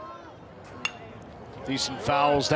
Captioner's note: bat dings